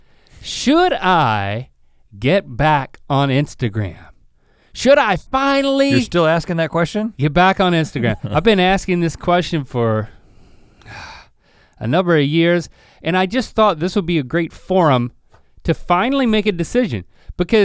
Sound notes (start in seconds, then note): 11.3 sighs